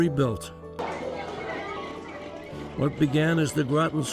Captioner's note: hubbub